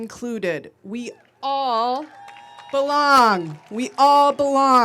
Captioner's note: audience cheering